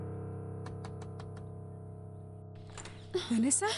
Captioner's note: knocking